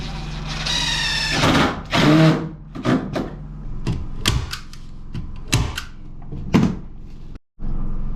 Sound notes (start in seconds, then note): 2.5 hammering; 4.8 drilling